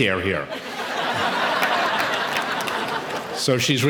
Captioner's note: audience laughing